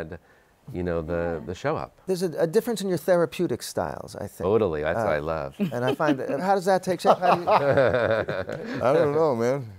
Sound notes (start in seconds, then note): 7.1 laughs